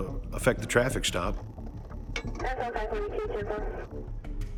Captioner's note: tense music; police radio chatter